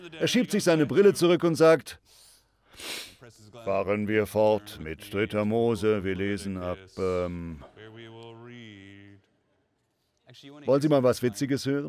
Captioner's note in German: in übertrieben monotoner stimme